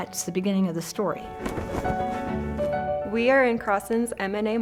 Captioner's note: flag flapping